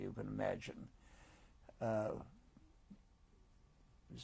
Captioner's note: pauses for 3 seconds